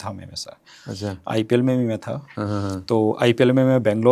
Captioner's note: nasal voice